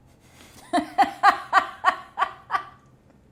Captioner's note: laughs